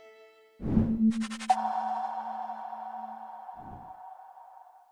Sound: echoing sound

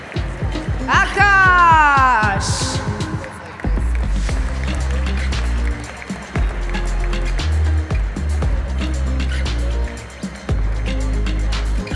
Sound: applause; applause

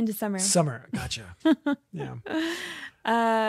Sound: laughs

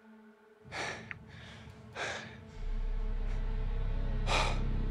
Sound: Kyle breathing heavily

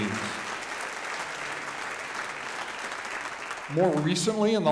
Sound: audience applauding

